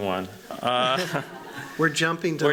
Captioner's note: laughter